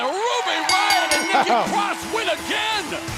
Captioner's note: bell ringing